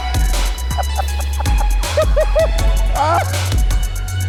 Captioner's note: intense music continues; laughing